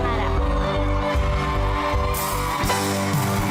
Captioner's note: audience cheering, applauding